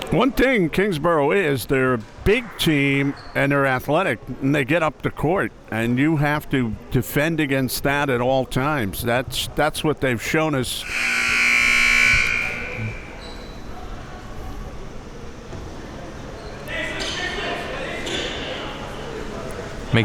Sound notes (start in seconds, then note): 10.8 buzzer buzzing; 16.7 people talking